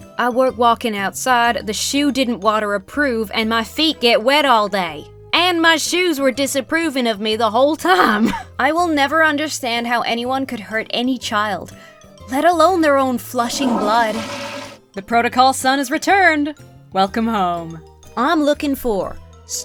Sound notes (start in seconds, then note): 8.0 chuckles; 13.3 toilet flushes